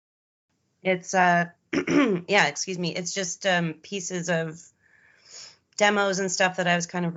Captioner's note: clears throat